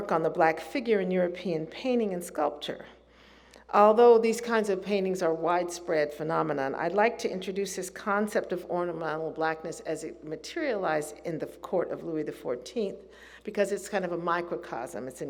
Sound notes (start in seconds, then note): none